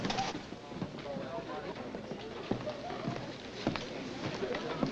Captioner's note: diners chattering